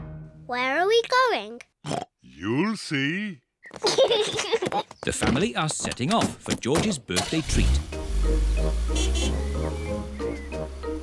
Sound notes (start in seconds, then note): 1.8 oinks; 3.7 kids giggle; 8.0 horn honks